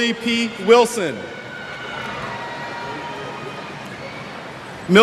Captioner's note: cheers